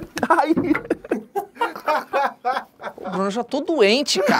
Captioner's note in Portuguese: risadas